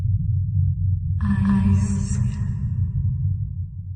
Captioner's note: echoing